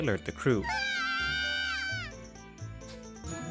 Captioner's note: The twins making kirby noises